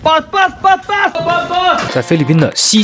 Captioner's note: in Filipino